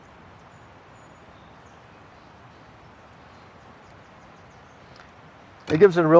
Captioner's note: wind rustling